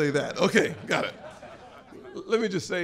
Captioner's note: laughter